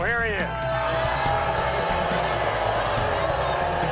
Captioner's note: audience booing